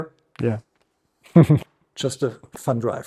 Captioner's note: chuckles